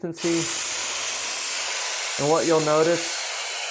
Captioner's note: loud spraying